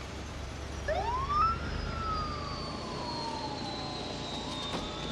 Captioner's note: siren blaring